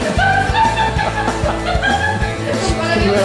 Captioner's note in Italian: risate fuori campo